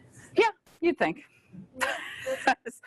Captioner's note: laughs